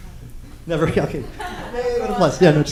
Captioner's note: laughter